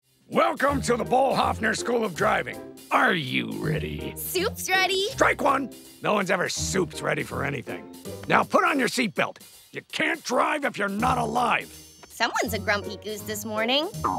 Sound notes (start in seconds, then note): none